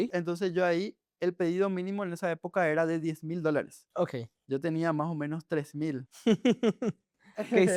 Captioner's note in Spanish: risas